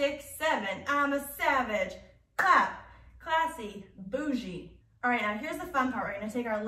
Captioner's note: clap